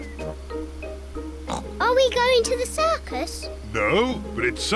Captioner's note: oinks